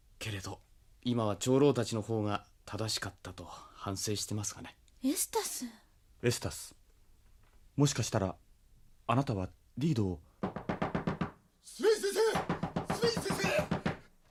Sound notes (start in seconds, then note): 10.4 SFX: knocking on the door